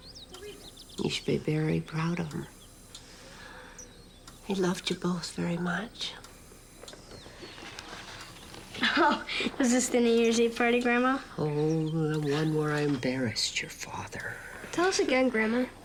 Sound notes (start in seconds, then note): 8.6 laughing